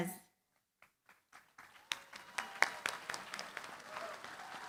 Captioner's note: applause